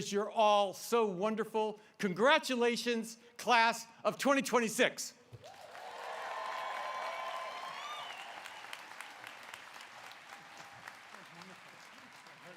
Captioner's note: applause